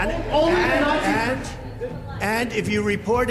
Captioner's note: crowd clamors